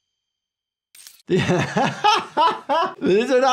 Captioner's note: laughs